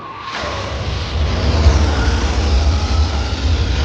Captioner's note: engine roar